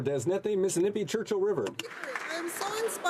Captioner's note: some Applause